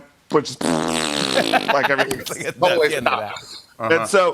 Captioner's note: laughs